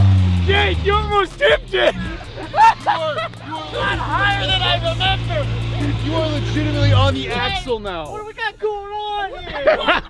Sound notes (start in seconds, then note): 1.2 laughing; 9.2 laughing